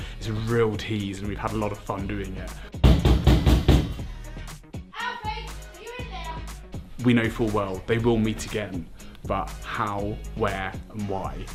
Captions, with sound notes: It’s a real tease and we've had a lot of fun doing it. [Loud knocking at the door] Alfie, are you in there? We know full well they will meet again, but how, where and why?